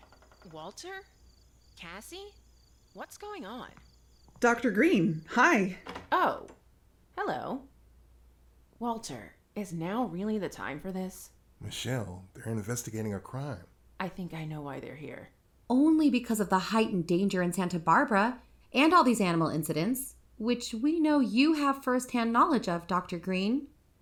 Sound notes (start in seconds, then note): 0.0 unlocking of door, door opens to outside, night ambience; 3.7 footsteps in, closes door, night ambience stops